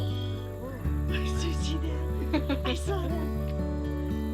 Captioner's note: woman laughs